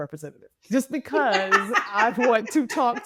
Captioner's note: laughing